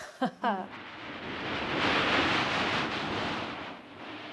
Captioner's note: laughs; scraping